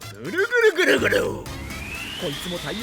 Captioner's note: gurgle